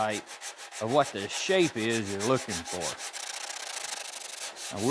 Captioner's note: scraping